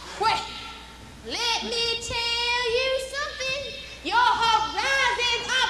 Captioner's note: none